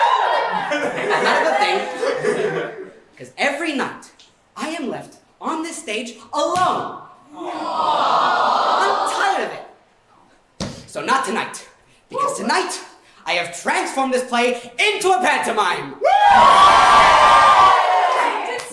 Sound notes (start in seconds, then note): 0.0 audience response; 0.0 audience cheers; 7.3 audience Aww; 18.5 audience cheers